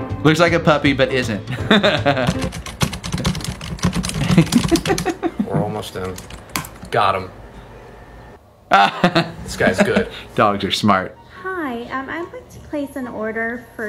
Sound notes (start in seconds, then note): 1.6 laughing; 2.0 frantic keyboard typing